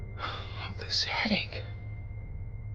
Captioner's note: sighs